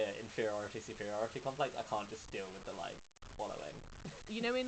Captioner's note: laughs